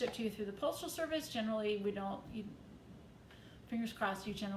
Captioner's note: speaks faintly